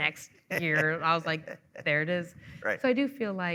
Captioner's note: chuckling